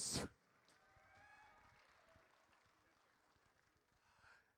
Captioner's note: audience cheers